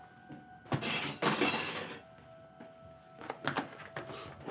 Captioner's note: cutlery clatters